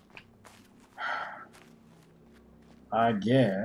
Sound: sighs

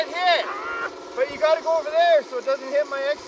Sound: crew member screams

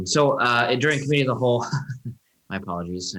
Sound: laughing

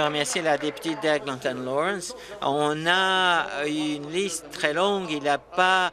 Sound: applause

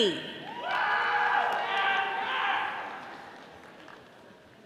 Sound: audience applauding

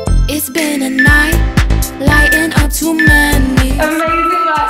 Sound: timer beeping

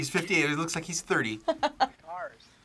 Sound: React laughs

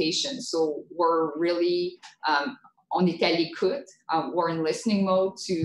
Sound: speaking French

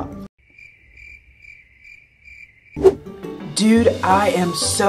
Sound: crickets chirping

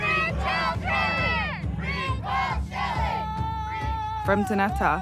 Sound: protesters chanting

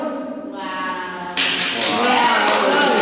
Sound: clapping

